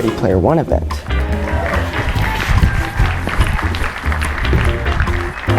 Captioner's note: applause